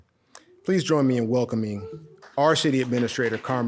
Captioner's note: audience cheering